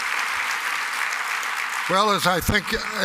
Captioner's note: applause